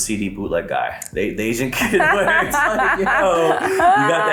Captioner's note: laughing